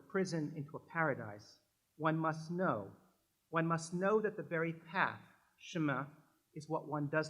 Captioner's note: french